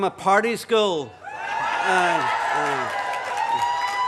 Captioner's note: cheering, applause